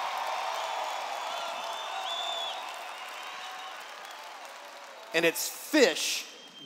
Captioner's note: cheers